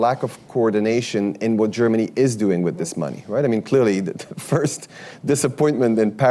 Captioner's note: laughs